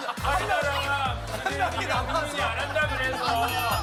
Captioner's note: pretty suspicious laughter